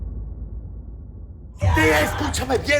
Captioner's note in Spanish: Gritos